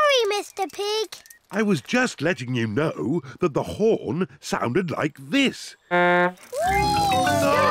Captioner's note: honks horn